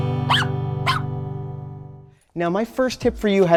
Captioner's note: doggie barks